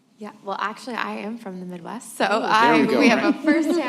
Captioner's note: laughter